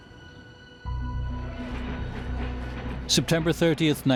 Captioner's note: muted marching